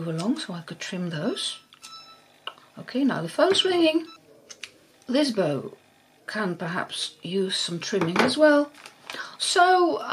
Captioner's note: now the phone's ringing